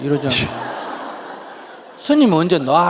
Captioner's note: audience laughing